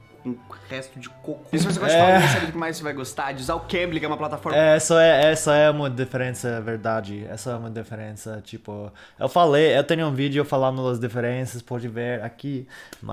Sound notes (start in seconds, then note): 1.6 laughs